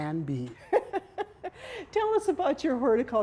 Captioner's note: laughing